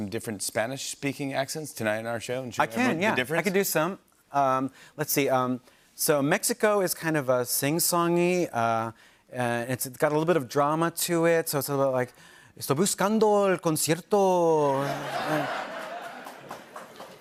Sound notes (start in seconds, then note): 13.1 speaking Spanish; 14.7 laughter